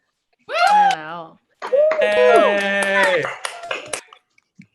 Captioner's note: cheering and clapping